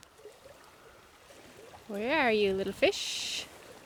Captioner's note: water gurgling